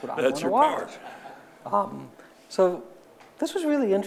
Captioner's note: audience laughing